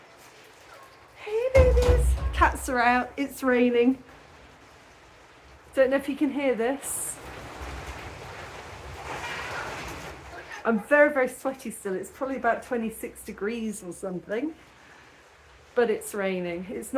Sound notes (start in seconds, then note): 7.5 rainfall; 9.1 meow